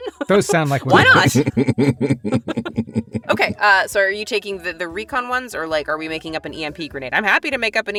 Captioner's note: chuckle